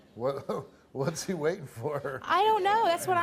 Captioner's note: laughs